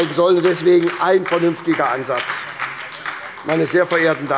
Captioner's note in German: Beifall bei der SPD